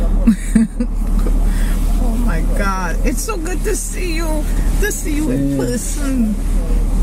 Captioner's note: laughing